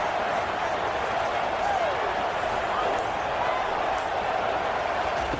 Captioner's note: crowd Noises